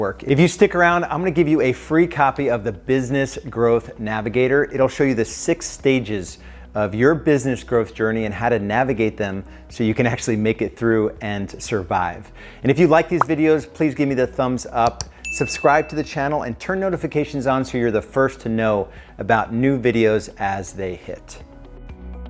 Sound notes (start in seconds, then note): 14.8 computer mouse clicks; 15.1 bell rings